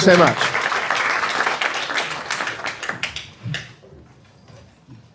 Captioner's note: audience applauding